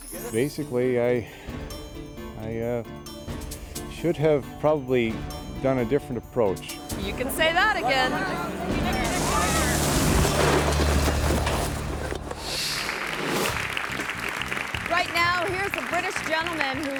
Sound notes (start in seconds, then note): 10.1 feet rustling; 12.4 graphics whooshing; 12.8 hands clapping